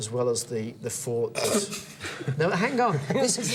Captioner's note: Tony laughing